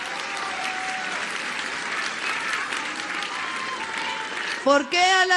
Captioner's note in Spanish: aplausos